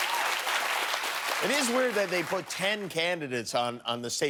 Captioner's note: cheers and applause